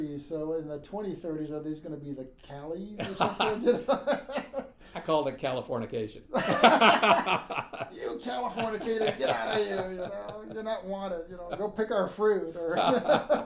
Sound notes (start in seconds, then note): 3.0 laughing; 6.3 laughing; 12.5 laughing